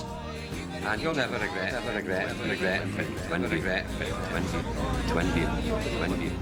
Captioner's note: echoing